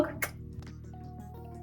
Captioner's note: bright upbeat music; lips smooching